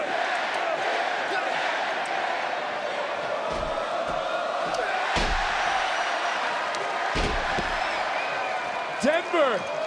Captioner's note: crowd chants